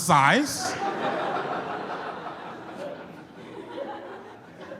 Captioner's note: audience laughs